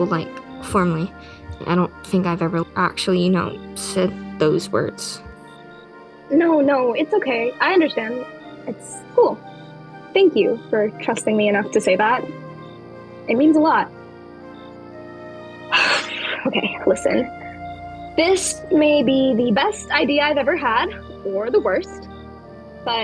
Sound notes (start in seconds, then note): 15.7 wind blows